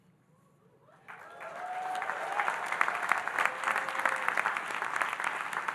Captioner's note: audience cheering and applauding